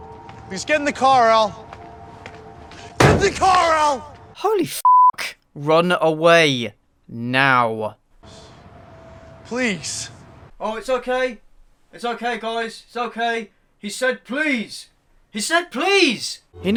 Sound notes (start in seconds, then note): 3.0 hits car hood